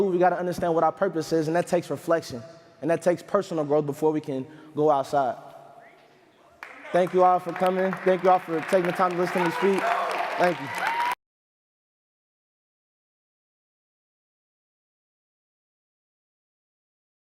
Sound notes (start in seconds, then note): 6.5 crowd clapping